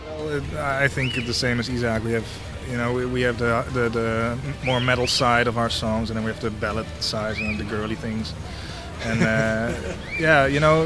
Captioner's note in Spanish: risas